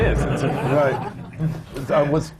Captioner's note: laughter